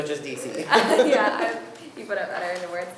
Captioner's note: laughing